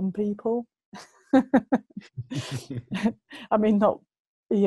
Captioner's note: lacht verschmitzt